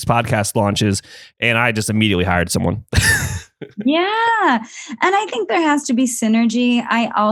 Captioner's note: laughs